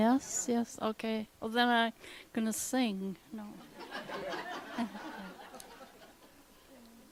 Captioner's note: laughter